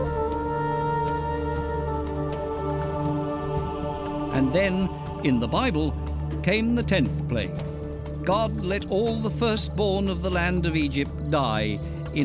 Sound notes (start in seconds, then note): 3.0 men chanting